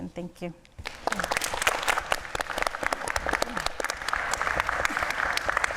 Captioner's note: audience applauding